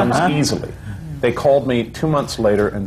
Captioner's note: laughter